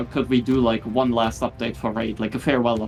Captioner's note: none